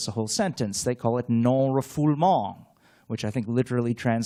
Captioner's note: french